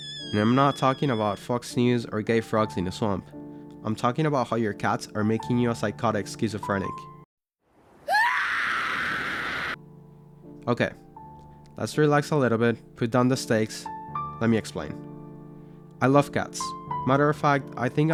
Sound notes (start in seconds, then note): 8.0 Shinji scream